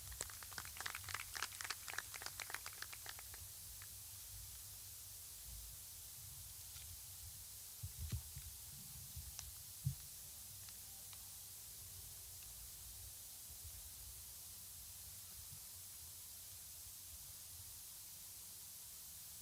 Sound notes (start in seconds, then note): 4.2 applause